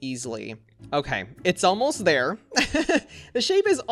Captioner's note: laughs